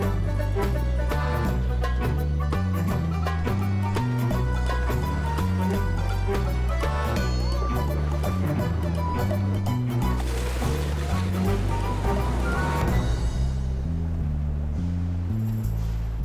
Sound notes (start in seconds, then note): 10.5 water splashes